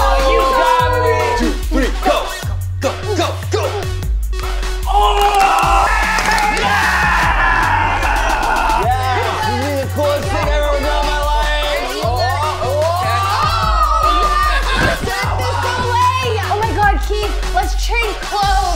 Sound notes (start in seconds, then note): 4.9 cheering; 7.7 shouting; 13.7 all cheering